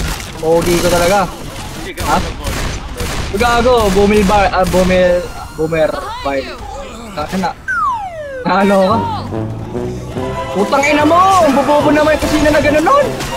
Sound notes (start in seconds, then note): 3.9 struggles to say boomer bile